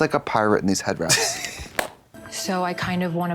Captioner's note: Katya titters